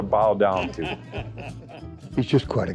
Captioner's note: laughs